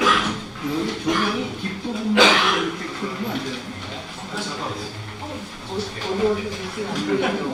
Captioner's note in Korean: 목을 가다듬음